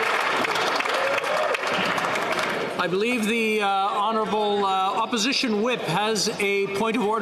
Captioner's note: some Applause